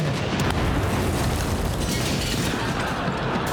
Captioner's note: explosion